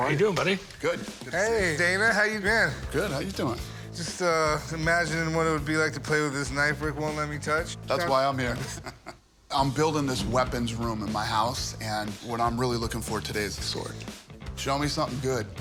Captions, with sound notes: - How are you doing, buddy? - Good. Good to see you. - Hey, Dana, how you been? - Good. How you doing? - Just imagining what it would be like to play with this knife Rick won't let me touch. - That's why I'm here. [laughs] I'm building this weapons room in my house, and what I'm really looking for today is a sword. Show me something good.